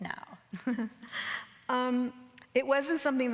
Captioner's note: Anna chuckles